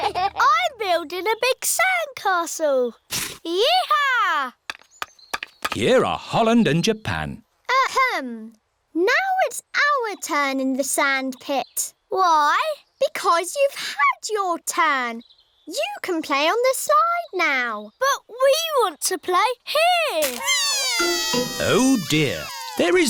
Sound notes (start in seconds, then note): 20.3 crying